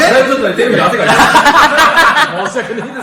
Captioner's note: laughs